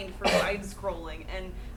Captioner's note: coughing